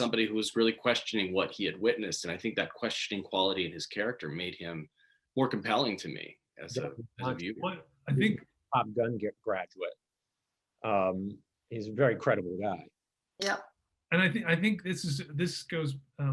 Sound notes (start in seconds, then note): 8.0 audio distorts